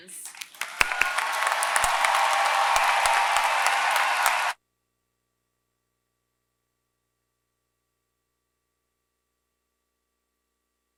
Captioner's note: applause